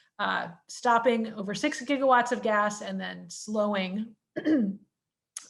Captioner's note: cough